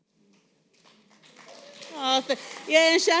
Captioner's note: applause